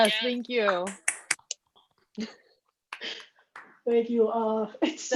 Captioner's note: soft claps